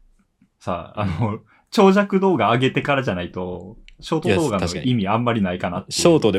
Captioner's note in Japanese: 咳払い